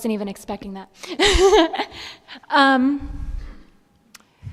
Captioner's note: giggles